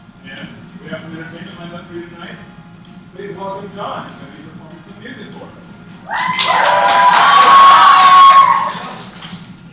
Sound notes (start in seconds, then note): 6.1 cheers